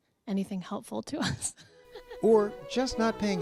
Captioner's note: laughter